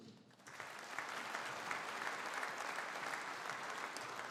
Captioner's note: audience applauding